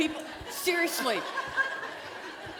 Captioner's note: laughter